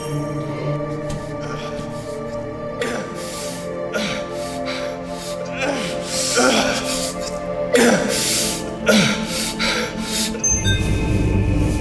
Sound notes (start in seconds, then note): 2.7 Michael grunts